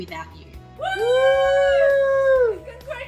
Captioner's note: people cheering